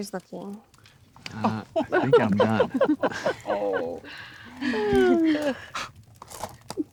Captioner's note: Charlotte and Betty laughing